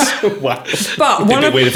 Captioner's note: laughing